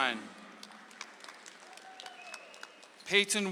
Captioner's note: audience applauds